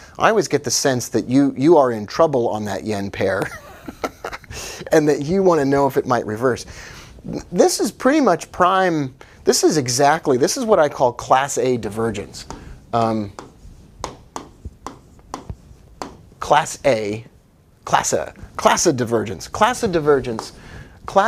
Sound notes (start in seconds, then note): 3.5 laughing